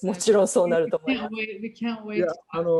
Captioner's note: speaking japanese